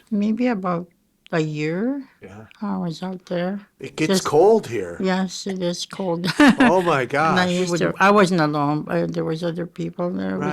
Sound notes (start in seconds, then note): 6.2 chuckling